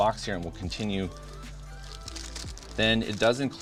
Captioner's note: upbeat music; plastic pouch squeaks